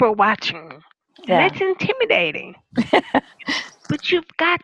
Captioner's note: laugh